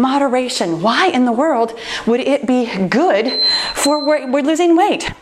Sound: timer beeping

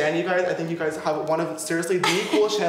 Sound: laughs

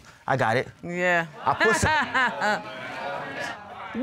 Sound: laughs

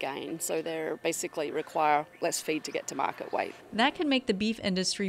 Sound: birds chirp in background

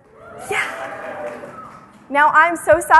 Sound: audience oohs

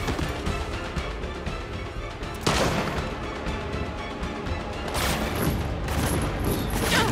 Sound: gunfire

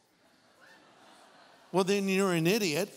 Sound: audience laughing

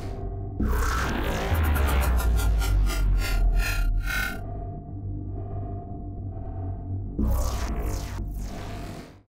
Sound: ghostly Effects

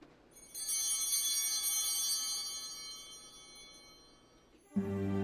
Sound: bell ringing

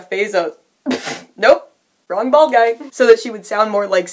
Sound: laughing

